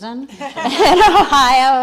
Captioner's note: crowd laughs; laughs